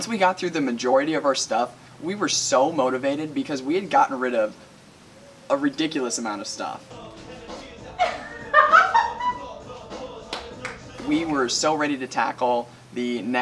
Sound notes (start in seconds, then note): 7.9 laughing; 10.3 clapping